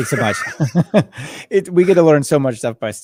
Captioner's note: laughing